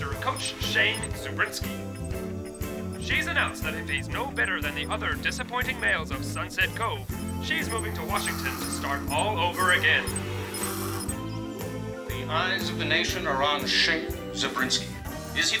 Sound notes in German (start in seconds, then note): 11.6 schlürft